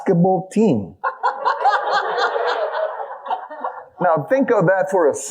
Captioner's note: audience laughing